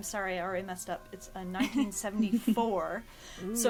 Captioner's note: laughter